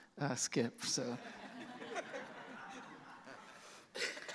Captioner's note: laughter